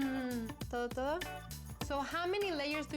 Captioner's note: speaking spanish